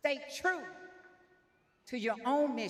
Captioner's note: none